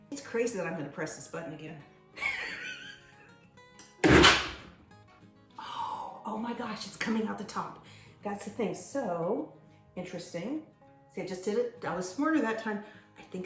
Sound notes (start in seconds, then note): 2.1 laughter; 4.1 blender pulses